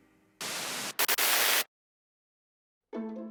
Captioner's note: static screeching; bright instrumental music